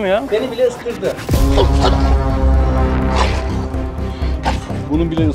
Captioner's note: barking, growling sounds and tension music